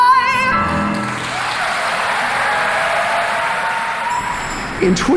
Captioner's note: crowd cheering